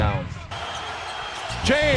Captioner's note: crowd cheers